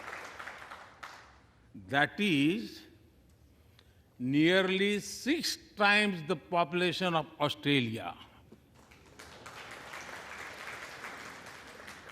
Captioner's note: applause